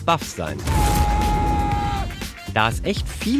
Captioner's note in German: Kampfschrei